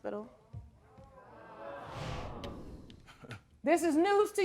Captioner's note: audience murmuring